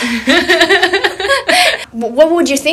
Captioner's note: both laughing